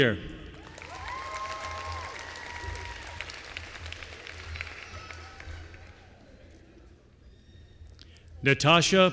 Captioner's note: applause